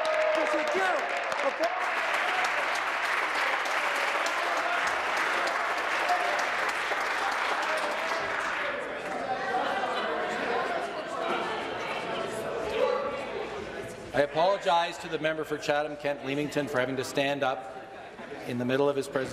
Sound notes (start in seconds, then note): 1.8 applause